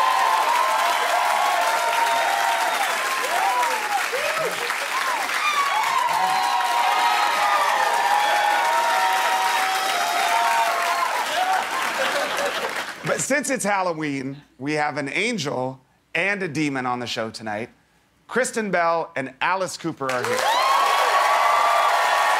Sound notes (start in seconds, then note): 6.1 cheers and applause